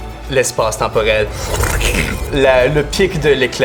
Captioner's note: sound of wind and glass